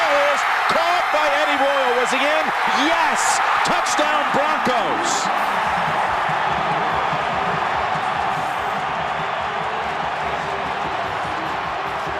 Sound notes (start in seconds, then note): 5.5 crowd cheers